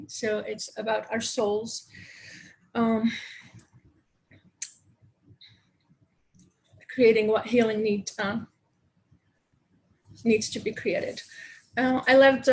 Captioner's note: long pause